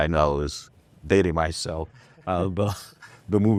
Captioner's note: laughs